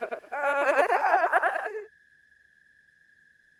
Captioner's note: ghostly Echoing Laughter Continues